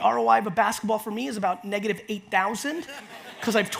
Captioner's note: audience laughs